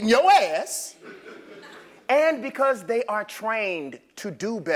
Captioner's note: laugh